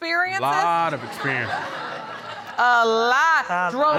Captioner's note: audience laughing